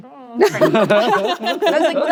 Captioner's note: laughter